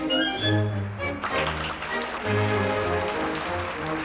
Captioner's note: audience Applauding